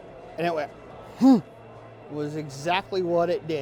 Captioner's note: grunting